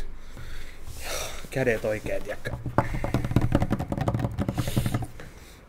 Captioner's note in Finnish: sormien naputusta